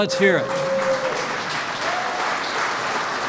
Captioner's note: applause